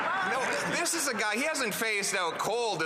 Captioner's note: some Applause